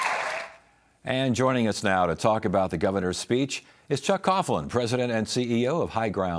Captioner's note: cheers and applause